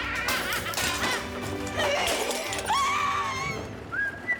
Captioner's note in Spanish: Estrépitos; Gritos y exclamaciones